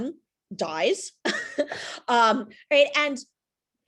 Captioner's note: chuckles